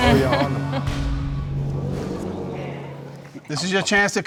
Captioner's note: chuckles in frustration